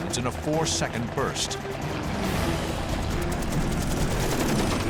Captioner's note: gunshots